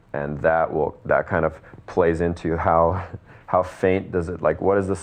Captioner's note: chuckles